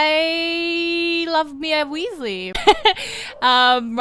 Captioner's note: laugher